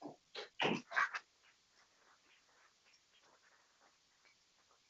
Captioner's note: people clapping